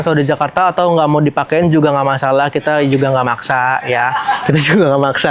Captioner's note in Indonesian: tertawa